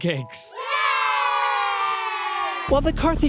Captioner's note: Carthaginian soldiers cheer